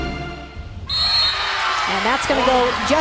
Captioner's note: dramatic music; whistle blows